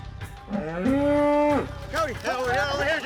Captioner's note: cow bellows